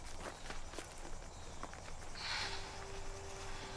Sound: sighs

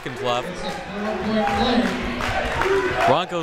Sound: crowd members chanting

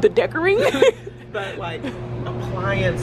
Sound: both laughing

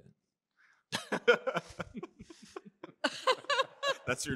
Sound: laughter

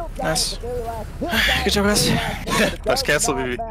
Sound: exhales

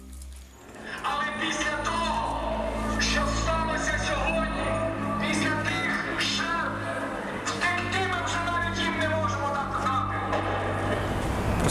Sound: voice-over

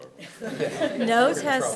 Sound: attendees laughing

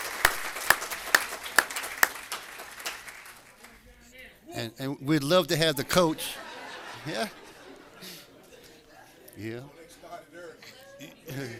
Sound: applause

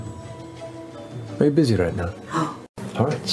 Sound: gasps

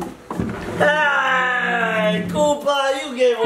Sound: screeches

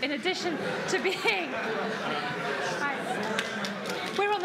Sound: laughter

